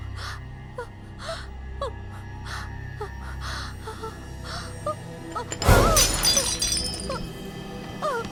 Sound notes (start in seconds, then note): 5.4 cup breaks